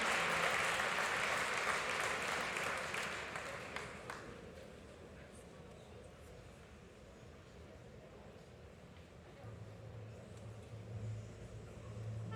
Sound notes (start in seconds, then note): 2.1 applause